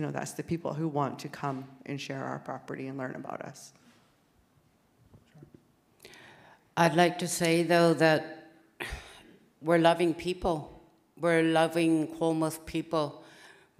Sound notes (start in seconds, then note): none